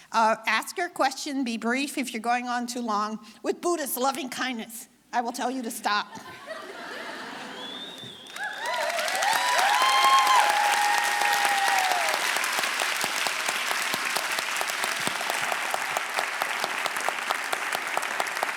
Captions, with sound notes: Ask your question, be brief. If you're going on too long with Buddhist loving kindness, I will tell you to stop. (audience applauding)